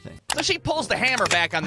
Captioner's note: button clicking; gun loading